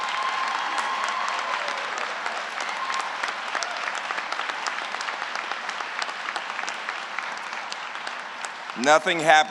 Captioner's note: applause